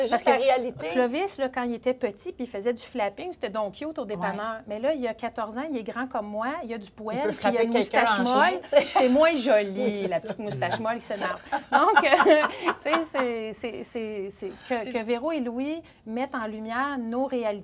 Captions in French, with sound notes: - C'est juste la réalité. - Ben oui, parce que Clovis, quand il était petit pis il faisait du flapping, c'était donc cute au dépanneur. Mais là, il a 14 ans, il est grand comme moi, il a du poil... - Il peut frapper quelqu'un en chemin. - C'est moins joli, la petite moustache molle qui s'énerve! (rire) Donc, que Véro et Louis mettent en lumière nos réalités,